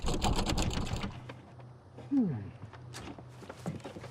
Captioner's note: shoes clacking; door knob rattles